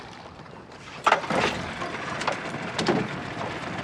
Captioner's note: motor starting